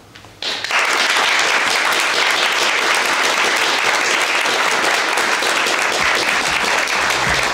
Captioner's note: applause